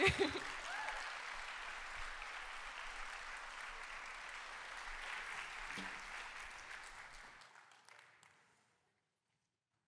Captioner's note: applause